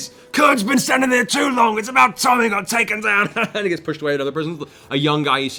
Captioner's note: laughs